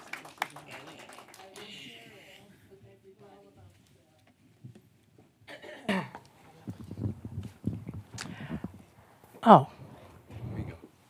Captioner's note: applause